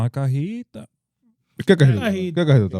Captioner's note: speaking In Foreign Language